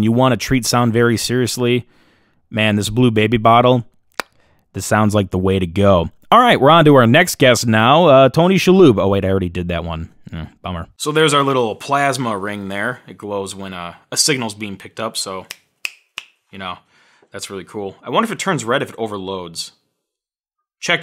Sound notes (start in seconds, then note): 15.8 snapping